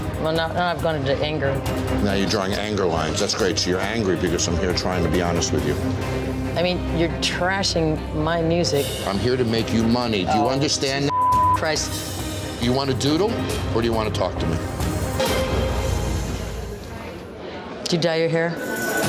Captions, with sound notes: - Well, now I've gone into anger. - Now you're drawing anger lines, that's great. So you're angry because I'm here trying to be honest with you. - I mean, you're trashing my music. - I'm here to make you money. Do you understand? - Oh Jesus (beep) Christ. - Do you want to doodle or do you want to talk to me? - Do you dye your hair?